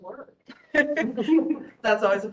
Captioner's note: laughing